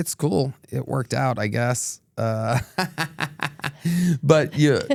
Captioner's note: laughs